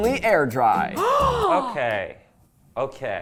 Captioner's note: gasping